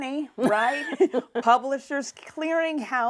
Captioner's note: laughs